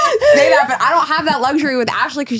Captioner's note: laughing